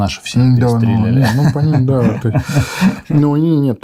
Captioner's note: chuckles